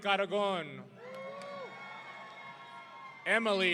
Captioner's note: audience cheering